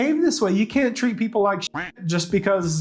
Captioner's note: duck quacking